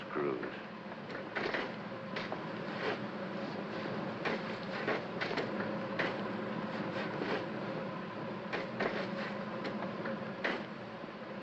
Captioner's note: sounds of shoveling; fire hissing